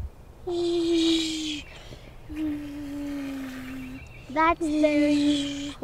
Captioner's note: makes airplane sounds